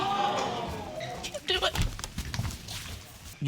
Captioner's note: audience exclaiming; sobbing